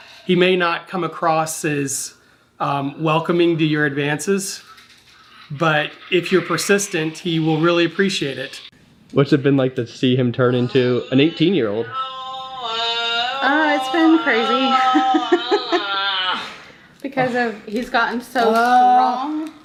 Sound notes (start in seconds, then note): 15.9 laughing